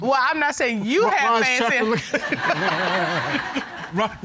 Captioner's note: audience laughing